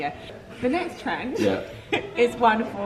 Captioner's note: laughs